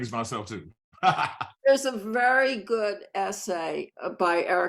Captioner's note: laughs